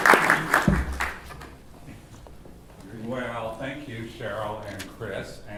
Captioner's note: applause